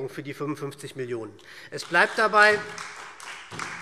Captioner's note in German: Beifall SPD